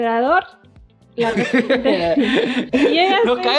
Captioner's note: laughs